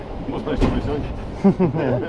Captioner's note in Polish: śmiech